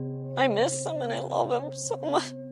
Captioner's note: somber music; sobbing